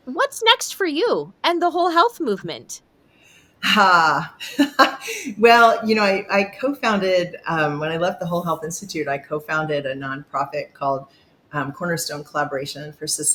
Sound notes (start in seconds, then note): 4.3 chuckles